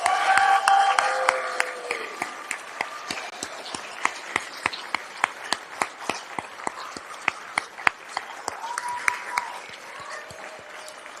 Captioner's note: applause